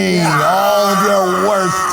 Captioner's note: Priyanka screams